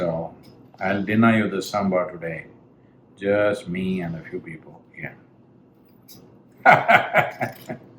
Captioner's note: laughs